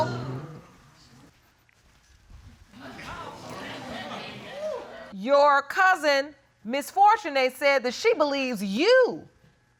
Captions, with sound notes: [audience chatter indistinctly] Your cousin, Ms. Fortune, said that she believes you